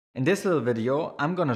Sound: voiceover

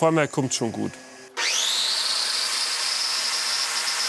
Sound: whirring

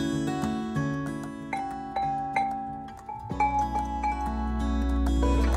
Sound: sound of chimes

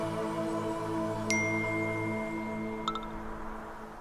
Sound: WhatsApp group notification

